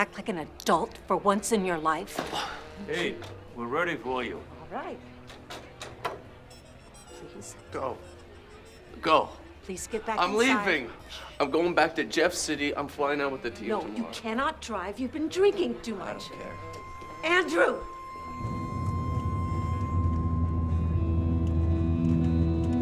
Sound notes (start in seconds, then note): 2.5 Drew scoffs; 18.5 tense guitar over ominous electronic music